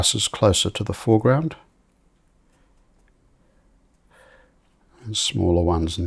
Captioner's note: silence